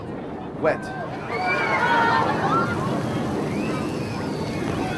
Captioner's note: audience screaming